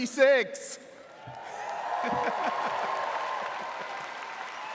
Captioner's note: audience cheers